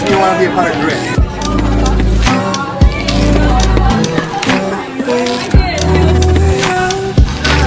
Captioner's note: indistinct Crowd Chatter